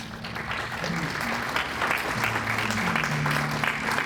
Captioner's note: audience applauds